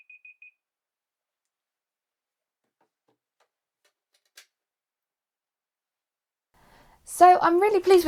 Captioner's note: beeping